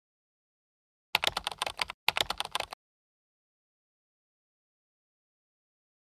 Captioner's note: keyboard keys cluttering